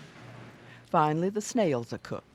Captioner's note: voiceover